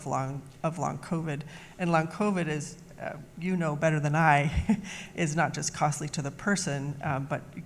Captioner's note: laughs